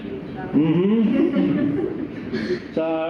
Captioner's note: laughter